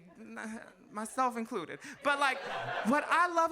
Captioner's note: audience laughs